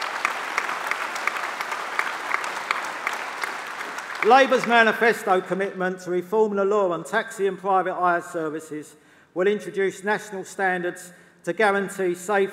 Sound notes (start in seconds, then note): 3.4 applause